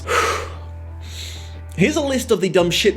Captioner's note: deep exhale and inhale